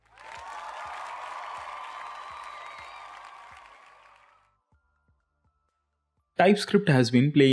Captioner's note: crowd cheering